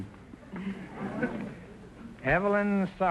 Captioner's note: audience chuckling